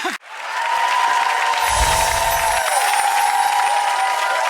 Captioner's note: audience cheering